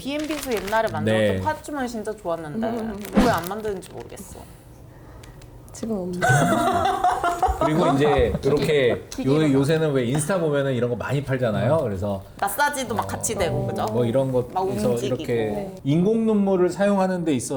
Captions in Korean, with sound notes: BMB수 옛날에 만들었던 파주 진짜 좋았는데 왜 안 만드는지 모르겠어. 지금 없네. [웃음] 그리고 이제 요렇게 요새는 왜 인스타 보면은 이런 거 많이 팔잖아요. 그래서 마사지도 막 같이 되고 그죠. 뭐 이런 거에서 이렇게 인공눈물을 사용하